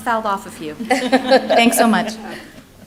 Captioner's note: laughter